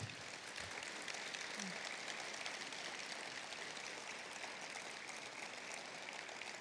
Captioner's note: applause